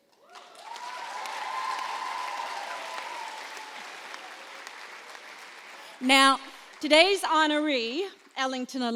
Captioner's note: applause